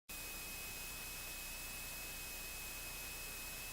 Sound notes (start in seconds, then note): 0.1 static